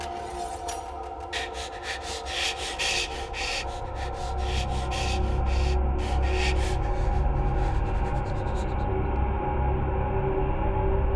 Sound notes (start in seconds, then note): 1.1 heavy breathing; 5.0 suspenseful music